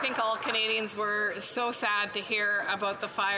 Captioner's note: some Applause